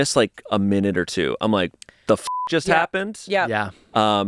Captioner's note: beep